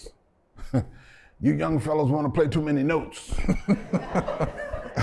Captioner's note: laughter